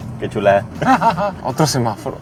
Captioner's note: laughter